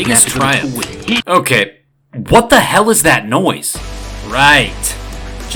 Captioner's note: keyboard noise growing in volume over narration